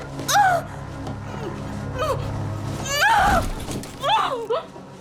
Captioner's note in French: Haletant, gémissant